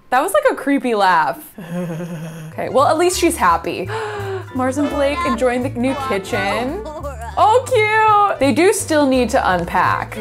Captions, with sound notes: That was like a creepy laugh. (laughing huskily) Okay, well at least she's happy. (gasps) Mars and Blake enjoying the new kitchen. Oh, cute! They do still need to unpack.